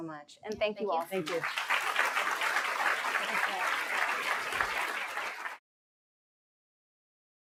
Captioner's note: applause